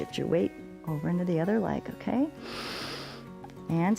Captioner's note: inhales